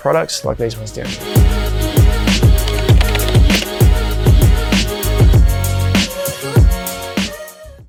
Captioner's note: upbeat music; keyboard clicking